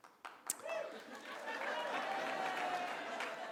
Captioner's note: audience whoops an cheers